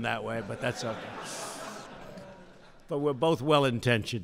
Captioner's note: laughter